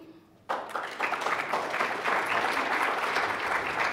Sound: loud clapping

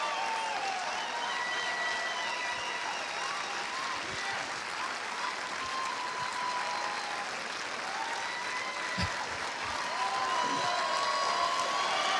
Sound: cheers and applause

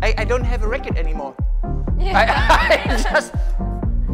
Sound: laughs loudly

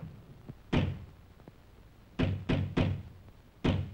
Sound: door knocking

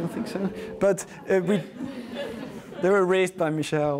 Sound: audience groans and laughs

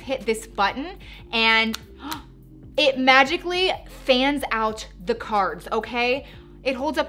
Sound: gasps

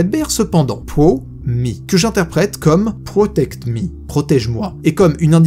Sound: in french

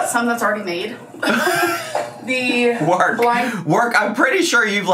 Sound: laughing

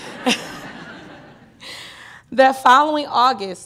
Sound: laughter

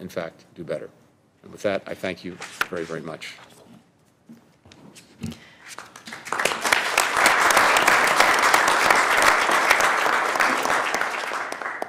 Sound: applause

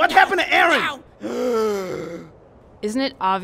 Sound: gasp

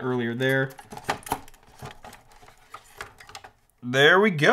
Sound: battery clanking

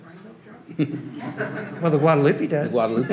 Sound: audience laughing

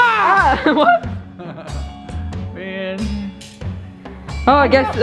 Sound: laughs

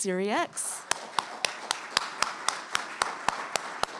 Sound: applause

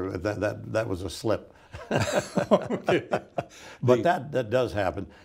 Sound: both laughing

